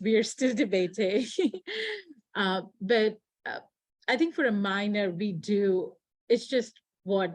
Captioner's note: chuckles